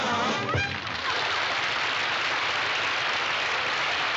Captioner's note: audience clapping